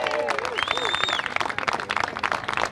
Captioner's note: applause